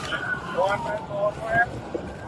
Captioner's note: radio chatter